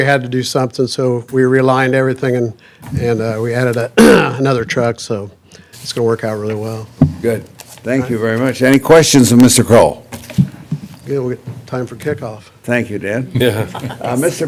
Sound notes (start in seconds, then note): 13.4 laughter